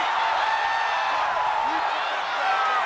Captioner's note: audience cheering